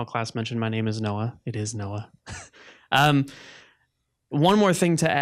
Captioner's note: chuckling